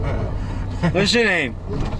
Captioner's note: laughing